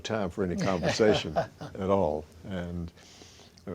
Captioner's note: chuckles